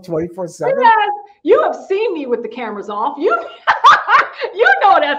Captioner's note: laughing